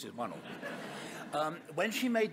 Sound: audience laughing

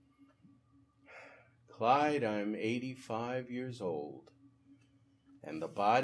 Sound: sighing

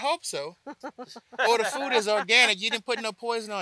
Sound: laugh

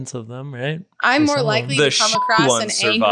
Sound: beep

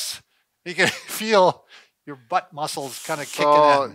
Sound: laughs

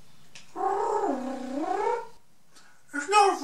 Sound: coos

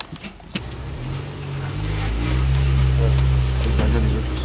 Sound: vehicle engine rumbles

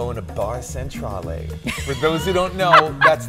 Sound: laughing

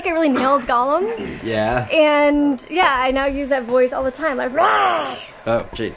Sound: roar

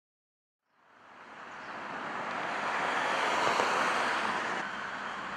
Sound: highway noise

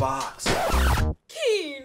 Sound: record scratch

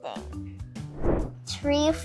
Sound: air whooshes

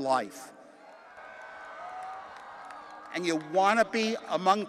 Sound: audience cheering

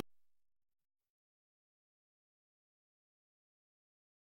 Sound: silence

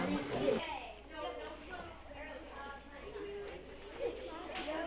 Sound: classroom chatter

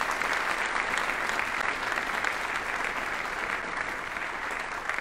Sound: audience applauding

